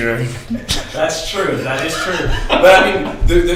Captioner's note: laughs